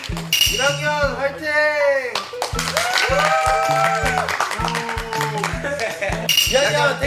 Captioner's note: freshman Team Chant